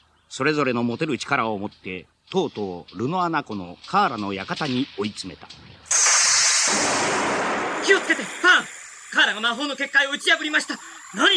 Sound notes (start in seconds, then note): 5.9 SFX: spell sounds